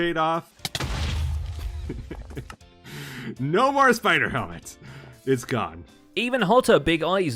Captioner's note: explosion